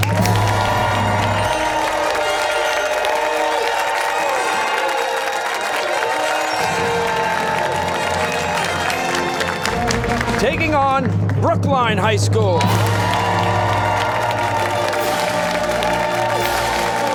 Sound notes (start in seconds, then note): 0.1 fanfare; 4.5 cheers and applause; 12.6 fanfare